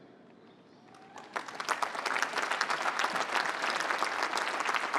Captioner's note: applause